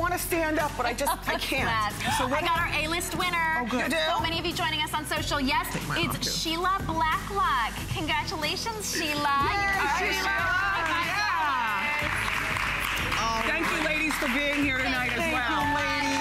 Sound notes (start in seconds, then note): 8.9 applause